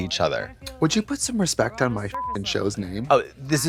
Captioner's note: beep